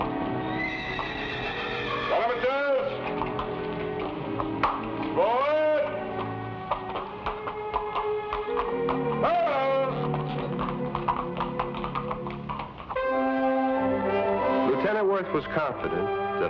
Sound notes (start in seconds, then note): 0.7 horse whinnies; 2.2 lieutenant shouts